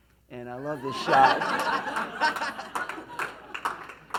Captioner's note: laughs